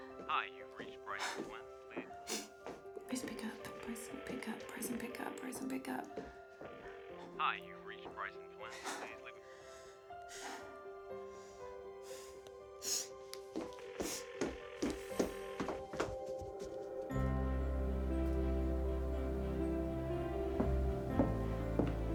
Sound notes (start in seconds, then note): 5.4 phone ringing; 14.0 phone ringing